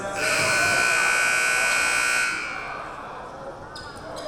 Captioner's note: buzzer buzzing